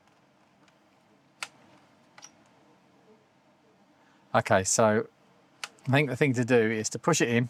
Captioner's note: silence